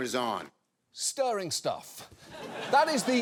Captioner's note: audience laughs